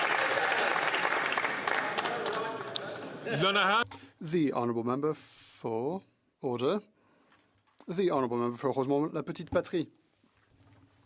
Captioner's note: some Applause